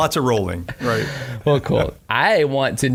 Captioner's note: laughing